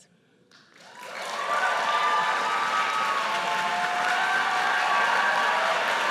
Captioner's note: audience cheers and applauds